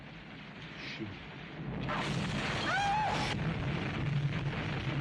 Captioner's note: screams